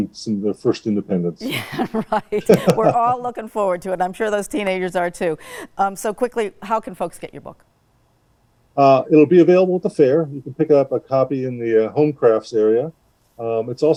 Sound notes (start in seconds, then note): 1.4 laughs